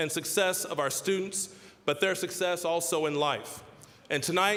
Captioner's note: none